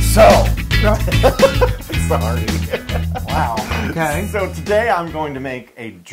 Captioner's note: laugh